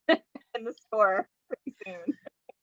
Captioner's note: chuckles